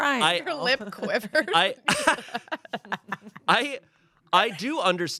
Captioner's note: everyone laughs